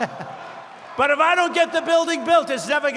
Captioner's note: laughs